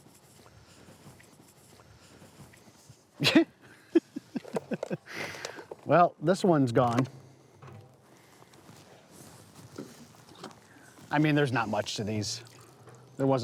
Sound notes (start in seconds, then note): 3.2 laughs